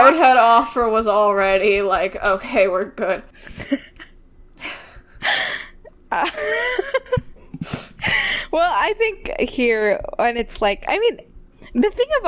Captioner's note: laughing